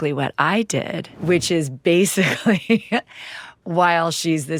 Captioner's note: laughs